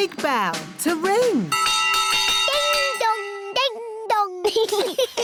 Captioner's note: bell rings; laughter